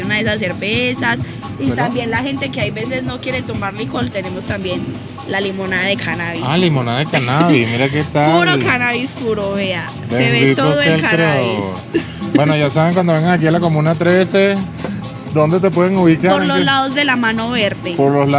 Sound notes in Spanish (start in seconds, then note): 11.5 risas